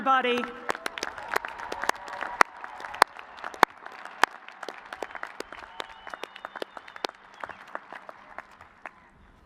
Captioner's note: cheers and applause